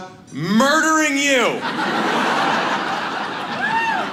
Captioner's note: audience laughs